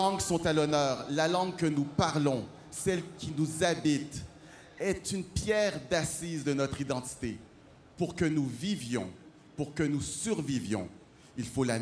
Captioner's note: speaking French